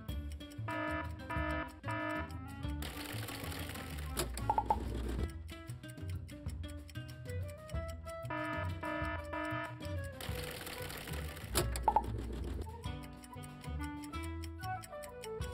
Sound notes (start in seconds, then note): 1.0 timer dinging; 3.1 words clicking; 8.7 timer dinging; 10.3 words clicking